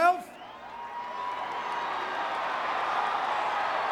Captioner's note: audience cheering